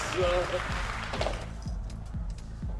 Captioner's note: imaginary clamor and clapping people; thud